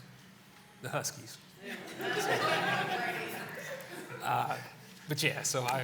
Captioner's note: laughter